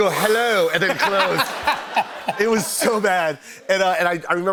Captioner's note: laughter